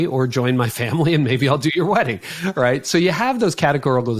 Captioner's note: laughing